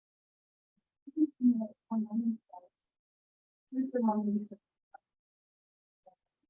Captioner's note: speaks distorted electronically